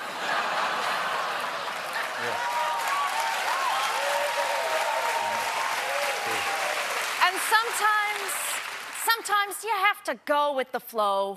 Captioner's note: cheers and applause